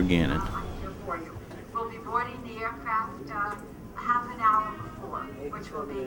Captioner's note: woman over P.A